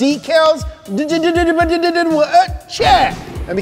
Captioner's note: mouthing sounds